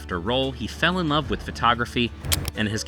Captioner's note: lens snap